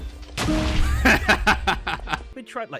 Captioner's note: explosion; victorious laughter